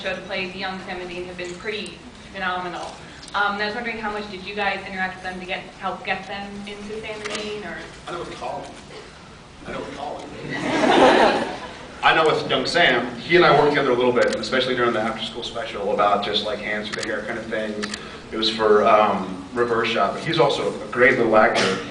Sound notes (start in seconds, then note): 8.0 off mic; 10.4 laughs